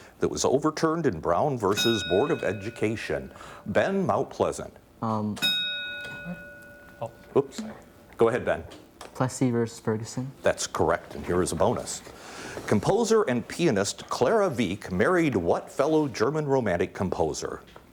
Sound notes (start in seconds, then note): 1.7 ding; 5.4 ding